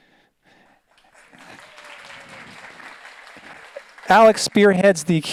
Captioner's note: audience applauds